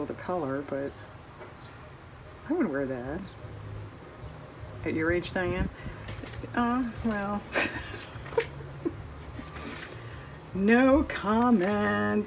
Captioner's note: laughs